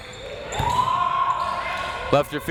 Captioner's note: crowd members shouting